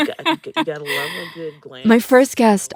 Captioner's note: laughter